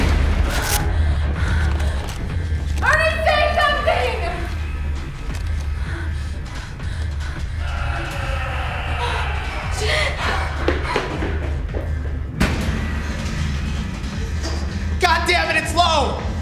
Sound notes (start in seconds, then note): 7.6 Ernie screaming